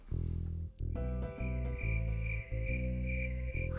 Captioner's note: crickets chirp